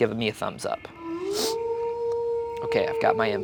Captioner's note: wolf howling